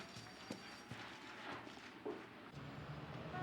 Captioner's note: horn honking